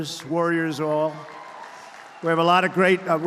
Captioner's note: applause